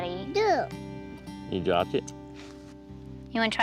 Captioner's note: babbles